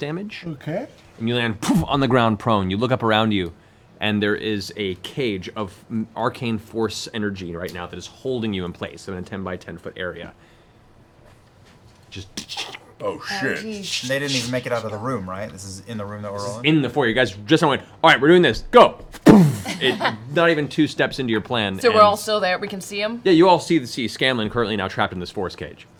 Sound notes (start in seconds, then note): 1.1 impact; 10.3 crackling; 19.2 impact